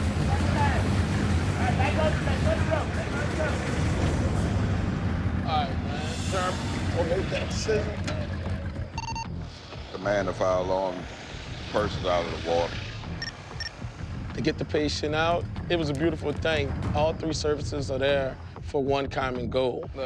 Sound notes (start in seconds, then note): 7.3 indistinct chatter; 8.9 radio chirps